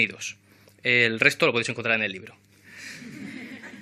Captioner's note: laughs